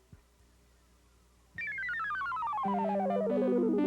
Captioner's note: telephone company message tones descend scale rapidly